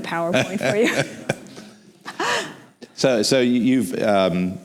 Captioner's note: laughs